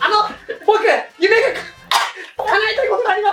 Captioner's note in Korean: 켈록